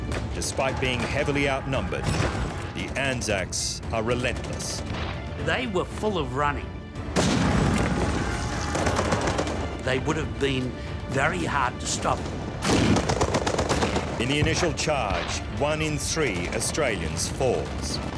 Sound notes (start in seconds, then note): 7.0 crashing; 7.1 explosions; 7.1 gunfire